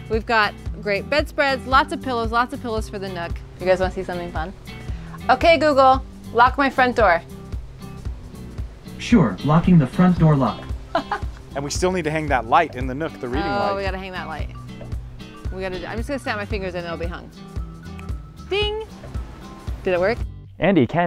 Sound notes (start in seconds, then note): 9.1 automated Voice; 10.9 laughs; 17.8 fingers snap